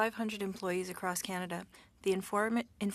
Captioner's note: speaking French